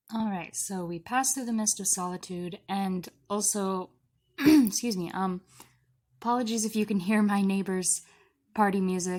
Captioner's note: clears throat